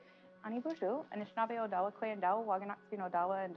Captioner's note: speaking Native language